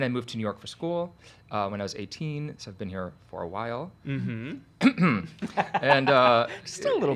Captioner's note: coughs